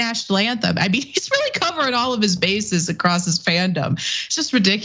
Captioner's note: laugh